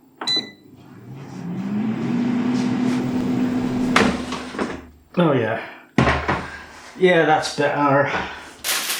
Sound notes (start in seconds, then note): 0.0 beep; 0.0 clunk; 0.5 whirrrr; 2.6 clunk